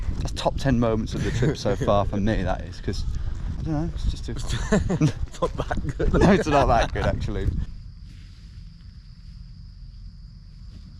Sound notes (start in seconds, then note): 4.4 laughs